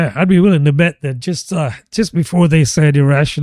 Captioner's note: uh